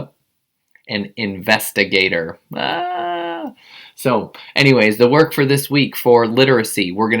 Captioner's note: groan